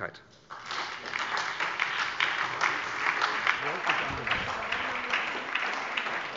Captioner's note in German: Beifall bei der SPD